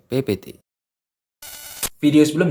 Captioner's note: interference sound